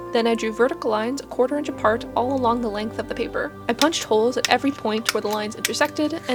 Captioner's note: sound of a hole punch punching